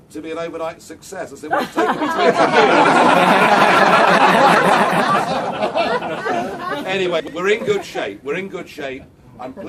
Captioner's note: crowd